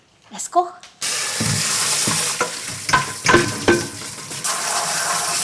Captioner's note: water pouring